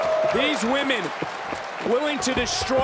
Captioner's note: crowd cheers